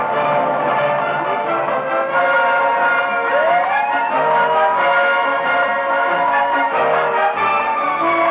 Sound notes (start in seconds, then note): 1.9 siren wailing